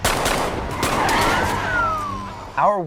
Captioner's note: gun shots blasting